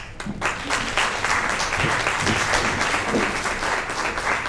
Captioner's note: audience applauds